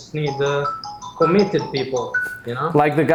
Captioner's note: telephone ringing